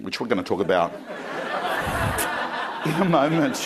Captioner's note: crowd laughing